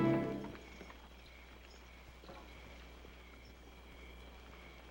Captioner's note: crickets chirping